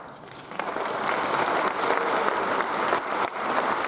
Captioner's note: audience applauds